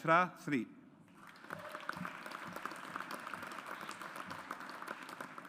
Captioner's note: audience applauds